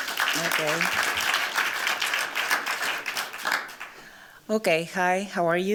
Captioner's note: applause